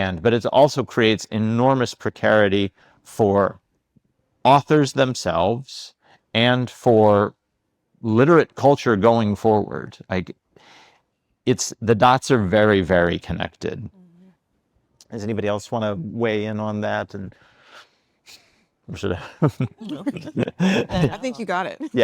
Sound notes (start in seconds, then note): 19.2 laughs; 19.2 panelists laughing